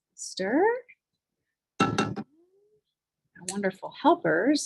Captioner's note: cookware bangs